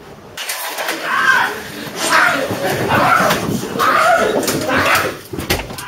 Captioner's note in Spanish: gritos